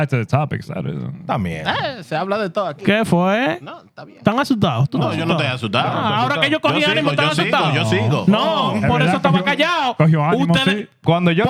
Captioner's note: speaking In Foreign Language